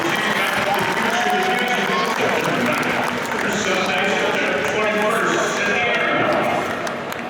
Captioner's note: audience cheering and clapping drowning out speaker